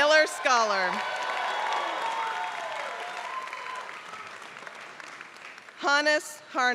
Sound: applause

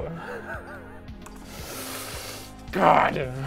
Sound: laughs

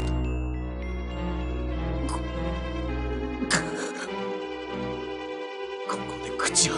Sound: heaves and chokes

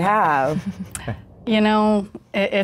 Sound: chuckles

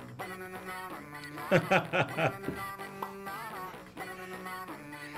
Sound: laughs

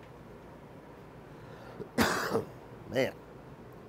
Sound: cough

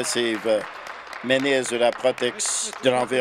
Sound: applause

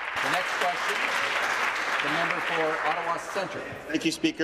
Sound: applause

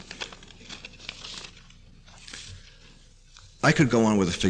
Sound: paper shuffling

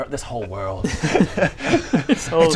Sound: laughs in existential crisis

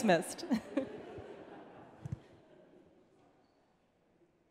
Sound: audience laughing

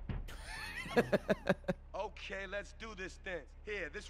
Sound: laughs

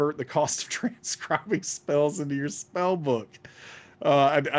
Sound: laughing

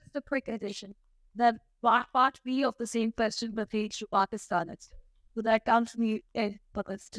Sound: speaks foreign language

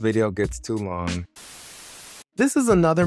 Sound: static buzzing

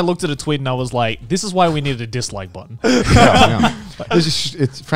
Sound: laughs

